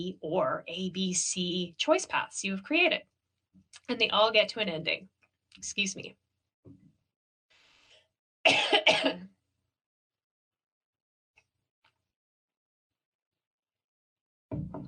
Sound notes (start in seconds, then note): 8.4 coughing